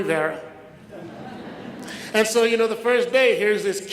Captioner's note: audience laughs